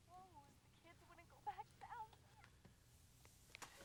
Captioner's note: woman on telephone fussing